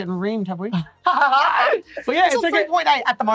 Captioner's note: both laugh